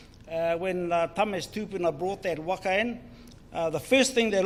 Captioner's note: speaks in foreign language